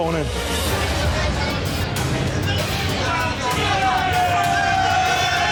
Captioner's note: chatter; cheering